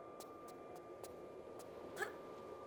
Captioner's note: none